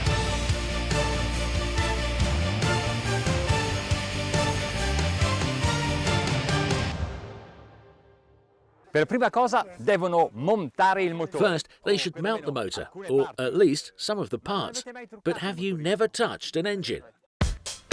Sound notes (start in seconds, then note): 9.3 speaks in foreign language